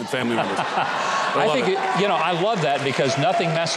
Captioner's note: audience laughing